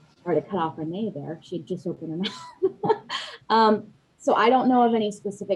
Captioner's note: laughs